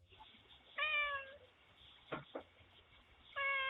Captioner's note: cat meows